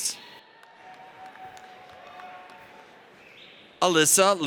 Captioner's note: audience applauds